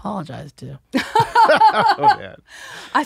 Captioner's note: they laugh